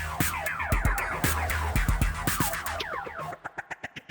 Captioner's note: none